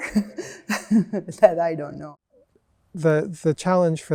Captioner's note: chuckles